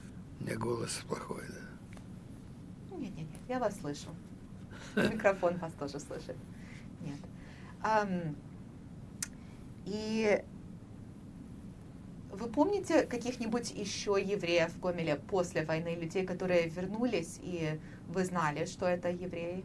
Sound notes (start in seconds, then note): 4.8 laughing